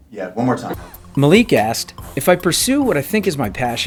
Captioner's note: voiceover